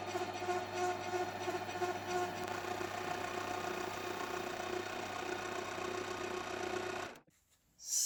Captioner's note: lathe noise